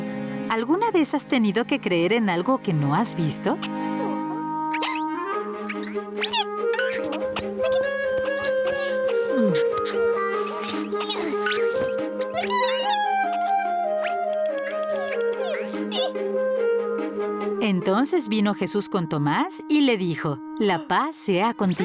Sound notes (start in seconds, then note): 3.2 caterpillar noises; 14.3 bell ringing